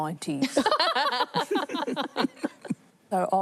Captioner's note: laughter